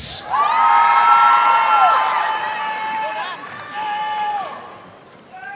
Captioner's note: audience cheering and applauding